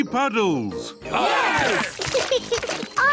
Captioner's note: cheering; laughs